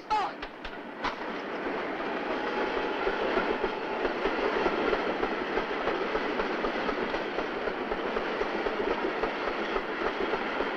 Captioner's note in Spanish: ROMBO DEl MOTORl